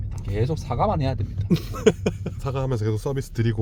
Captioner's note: haha